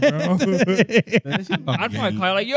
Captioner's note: laughing